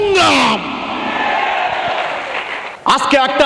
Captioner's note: clap